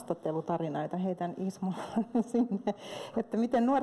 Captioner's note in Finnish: Naurahtaa